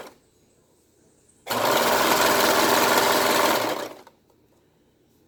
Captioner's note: sews Piece Together on Sewing Machine; sews Piece Together on Sewing Machine